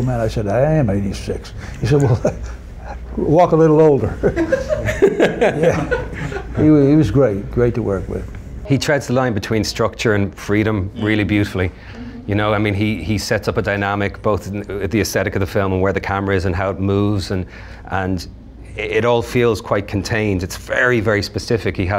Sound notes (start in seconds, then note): 3.9 men laughing